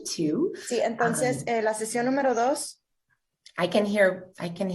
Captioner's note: translator speaking in Spanish